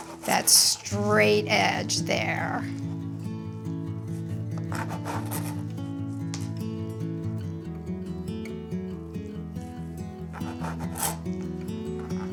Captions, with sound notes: that straight edge there. (knife shuffling) (cheerful music continues)